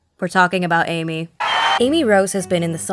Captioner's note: crowd cheers in euphoria